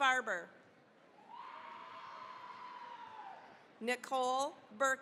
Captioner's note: cheering, applause